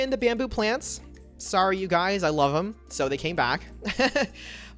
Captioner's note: laughs